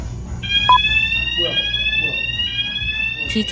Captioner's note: suddenly, a siren starts blaring